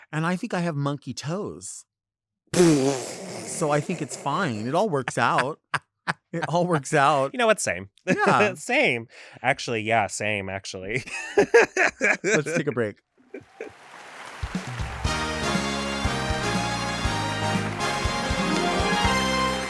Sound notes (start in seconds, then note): 11.1 laughs; 14.9 triumphant music